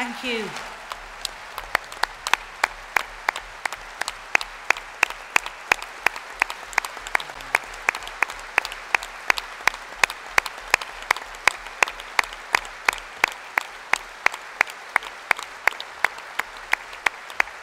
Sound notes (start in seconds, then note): 11.1 applause